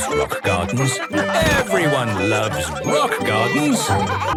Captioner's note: laughter